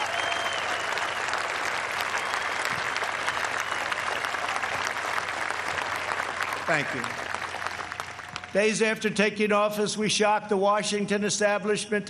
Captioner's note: cheers and applause